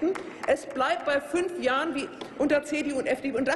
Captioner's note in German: Applaus